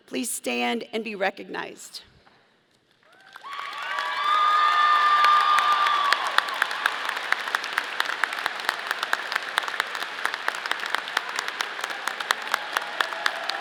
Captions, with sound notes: please stand and be recognized. (audience cheering) (audience applauding)